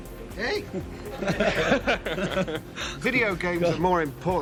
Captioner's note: audience laughs